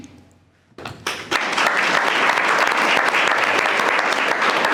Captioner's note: all applauding